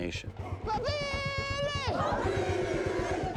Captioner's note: speaking xhosa